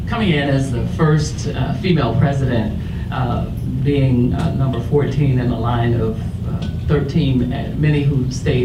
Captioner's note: none